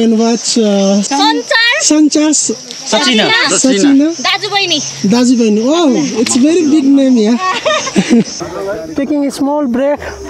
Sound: laughing

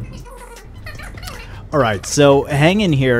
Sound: talking sped up

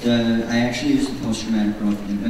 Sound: voiceover

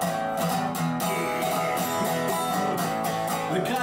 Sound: man roaring

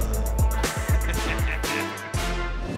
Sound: chuckling

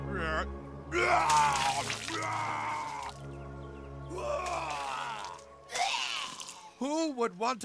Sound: vomits

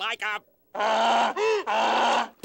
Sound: braying

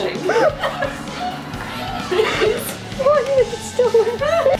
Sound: laughs

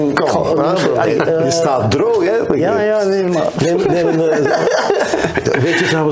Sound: laughter

